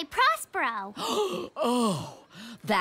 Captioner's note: gasps